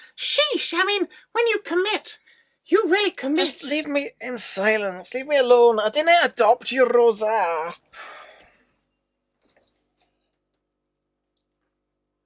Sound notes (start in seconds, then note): none